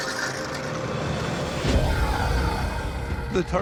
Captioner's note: pump sucking water